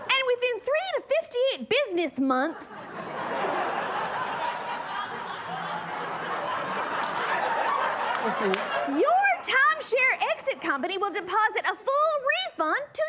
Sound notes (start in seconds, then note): 2.4 laughter